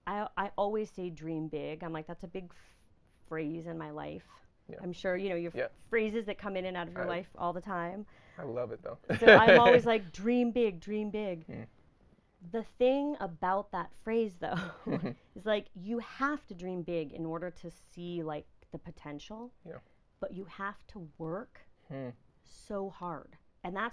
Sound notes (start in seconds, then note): 9.1 laughing; 14.5 laughing